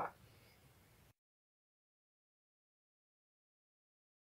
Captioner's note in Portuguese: silêncio